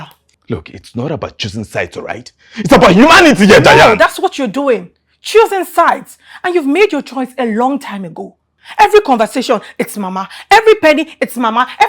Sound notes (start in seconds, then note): none